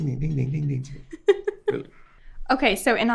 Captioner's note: host laughing